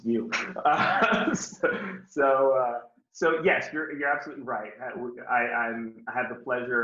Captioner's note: laughs